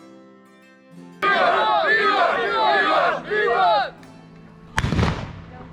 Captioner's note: male voices